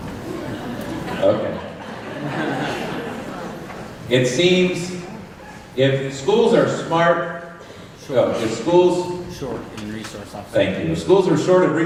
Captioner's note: laughter